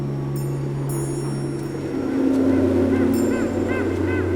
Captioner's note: bird calling